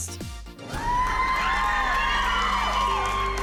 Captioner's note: cheering and applause